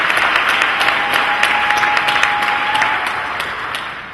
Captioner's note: applause and cheering